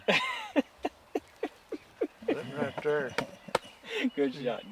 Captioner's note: laughing